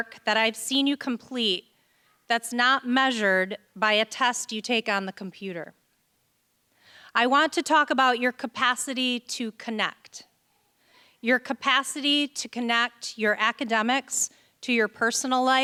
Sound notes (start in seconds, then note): none